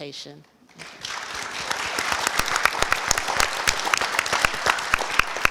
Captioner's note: audience applause